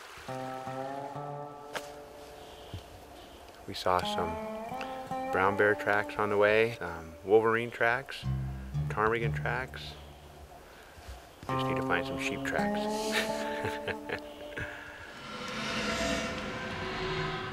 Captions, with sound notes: WE SAW SOME BROWN BEAR TRACKS ON THE WAY, UM, WOLVERINE TRACKS, PTARMIGAN TRACKS. JUST NEED TO FIND SOME SHEEP TRACKS. [LAUGHS]